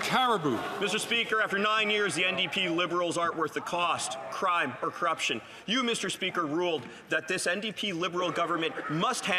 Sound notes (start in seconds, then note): 0.0 some Applause